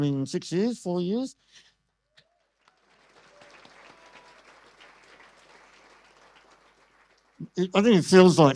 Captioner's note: audience applause